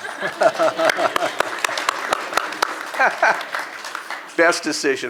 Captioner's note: applause